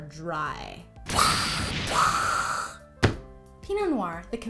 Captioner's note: explosion sounds